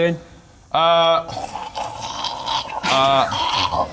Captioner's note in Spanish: Sonidos moribundos ruidosos de Bob